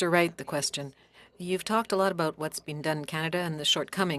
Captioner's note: speaking French